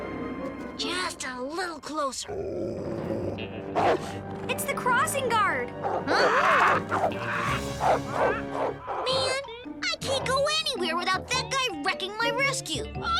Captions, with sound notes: JUST A LITTLE CLOSER. [barking] IT'S THE CROSSING GUARD! [barking] MAN, I CAN'T GO ANYWHERE WITHOUT THAT GUY WRECKING MY RESCUE.